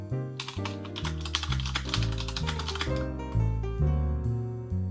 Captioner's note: keyboard clacking; upbeat music